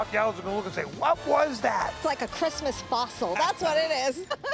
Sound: laughs

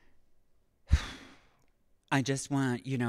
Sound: sighs

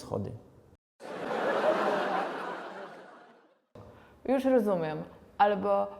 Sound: sit-com laugh

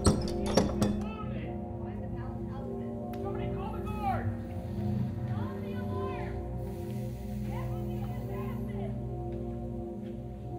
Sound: people shouting

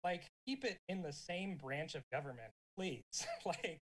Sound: chuckles

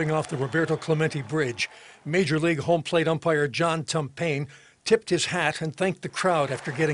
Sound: applause

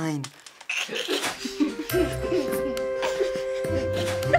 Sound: kids chuckling

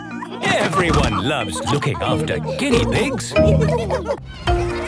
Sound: laughter

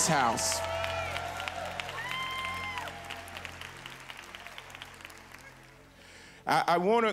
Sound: congregation applause

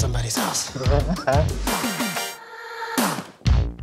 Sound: Carter laughs heartedly

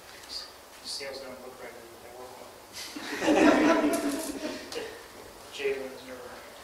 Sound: laughter

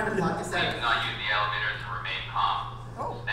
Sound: voiceover

